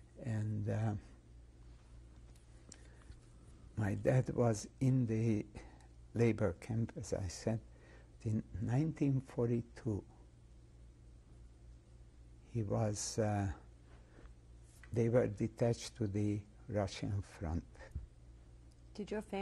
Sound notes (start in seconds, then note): 0.8 pauses for 3 seconds; 9.9 pauses for 3 seconds